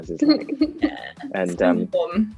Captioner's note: Amita laughs